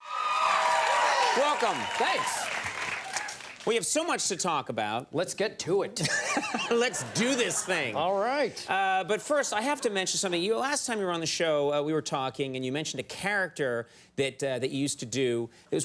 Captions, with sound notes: (audience cheers) Welcome. Thanks. We have so much to talk about. Let's get to it. (Conan laughs) (audience laughs) Let's do this thing. All right. But first, I have to mention something. Last time you were on the show, we were talking, and you mentioned a character that you used to do.